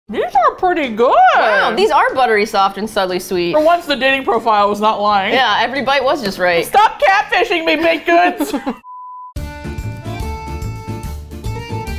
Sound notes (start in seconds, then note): 7.7 laughs; 9.4 upbeat Folk Music